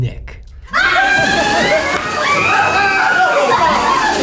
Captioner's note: screams